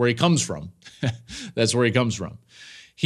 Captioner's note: laughs